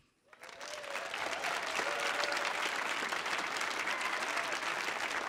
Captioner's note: audience applauding